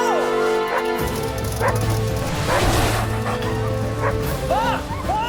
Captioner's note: dogs barking; perilous music